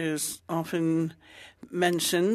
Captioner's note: speaking Alternate Language